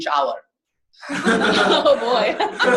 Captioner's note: laughing